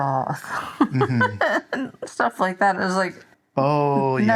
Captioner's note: laughs